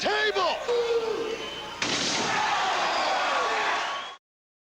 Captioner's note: crowd cheering